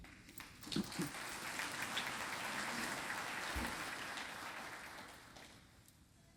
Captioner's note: applause